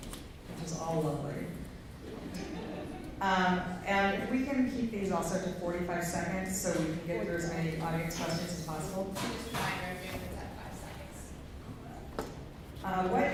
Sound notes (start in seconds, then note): 2.0 laughter